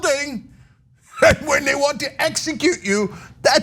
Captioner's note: laugh